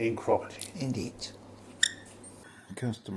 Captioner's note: karel squeaks